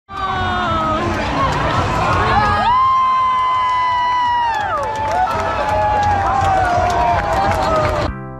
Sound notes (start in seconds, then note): 0.1 fans cheering; 5.0 crowd applauds